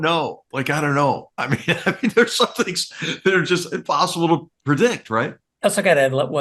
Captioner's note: laugh